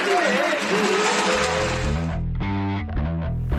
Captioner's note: applause